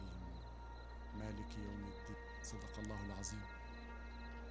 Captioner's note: praying in arabic